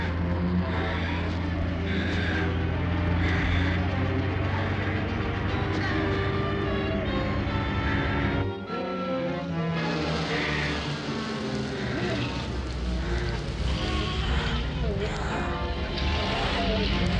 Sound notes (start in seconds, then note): 11.9 car engine running